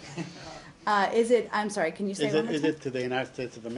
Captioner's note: laughter